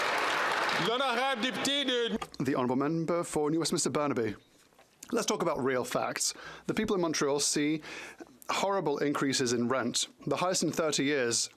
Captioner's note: some Applause